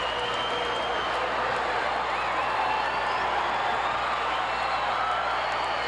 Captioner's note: audience cheering continues